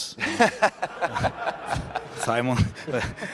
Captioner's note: laughter